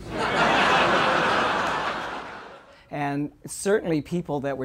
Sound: laugher

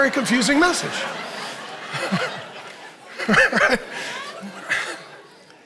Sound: congregation laughing

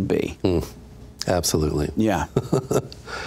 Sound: laughs

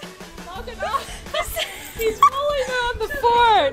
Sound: laughs

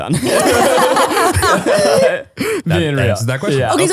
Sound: all laughing

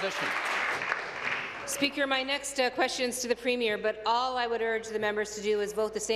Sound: applause

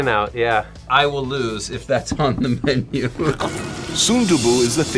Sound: laughs

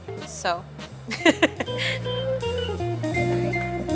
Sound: laughs; blues music continues

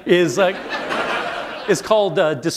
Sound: laughter

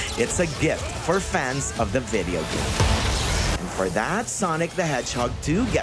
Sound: sound effects

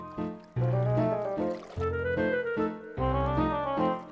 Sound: splashing

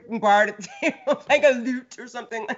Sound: laughs

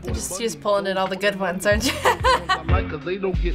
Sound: laughing

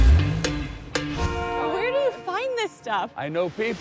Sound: upbeat music; taxi horn blares

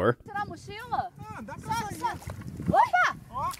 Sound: foreign language

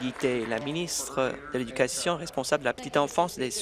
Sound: applause

